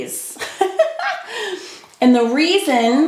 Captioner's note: laughs